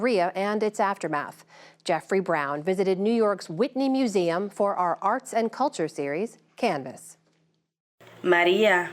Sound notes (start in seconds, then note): 7.2 through translator